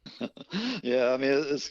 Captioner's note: laughs